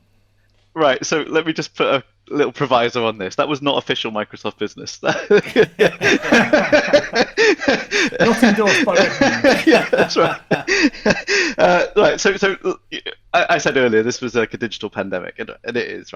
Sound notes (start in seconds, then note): 5.4 all laughing